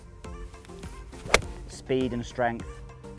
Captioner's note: golf ball hits